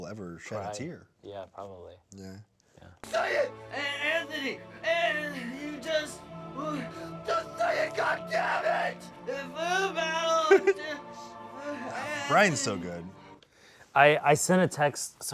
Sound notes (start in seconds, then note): 10.8 reporter stutters